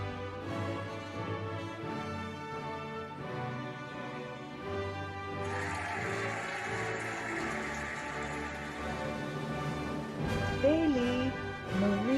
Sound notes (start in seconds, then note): 5.3 cheering and applauding